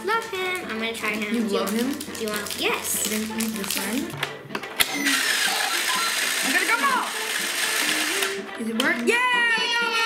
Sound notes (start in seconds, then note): 4.8 game noise